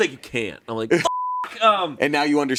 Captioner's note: beep